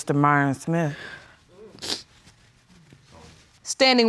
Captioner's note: sniffles